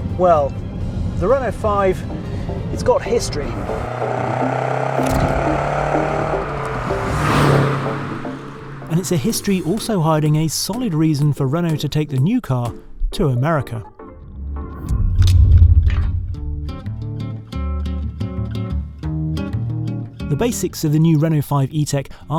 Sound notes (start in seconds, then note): 3.6 car roaring; 13.9 upbeat electronic music; 16.4 upbeat guitar music